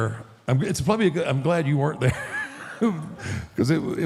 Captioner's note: laughs